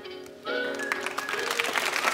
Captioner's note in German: Applaus